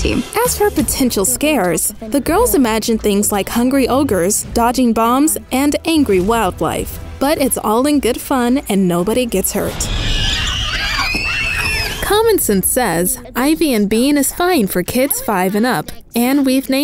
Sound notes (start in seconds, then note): 9.8 kids scream